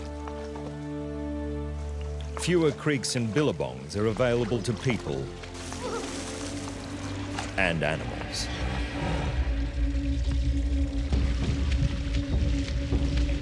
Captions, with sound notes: Fewer creeks and billabongs are available to people... [water splashes] ...and animals. [lion growls]